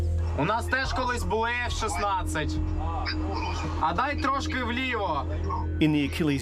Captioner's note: speaks in ukrainian